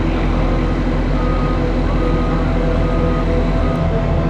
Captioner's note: tow truck beeping